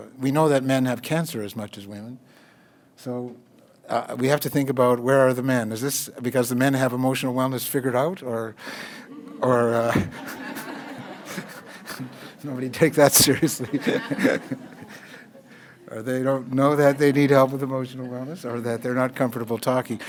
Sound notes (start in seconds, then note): 9.4 laughter from audience; 13.1 laughter